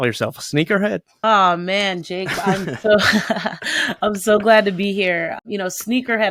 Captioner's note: laughs